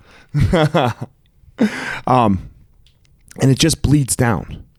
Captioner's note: chuckling